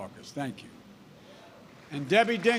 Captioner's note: applause